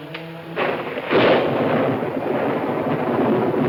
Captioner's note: thunder claps